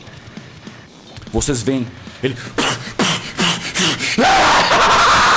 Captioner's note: stab sound